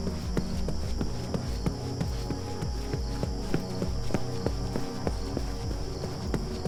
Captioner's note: tense music; footsteps thudding